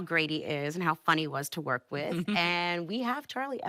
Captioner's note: chuckles